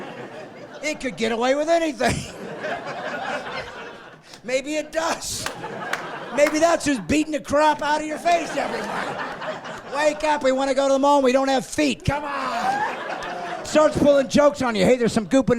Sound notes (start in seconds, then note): 3.4 laughing; 12.3 laughing